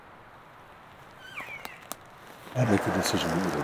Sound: caller cow calling

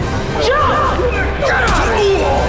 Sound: groaning

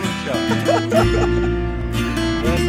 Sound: laughs

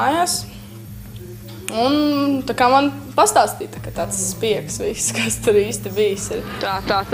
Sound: laughing

